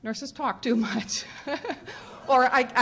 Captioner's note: laughing